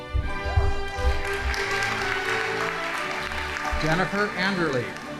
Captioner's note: audience applauding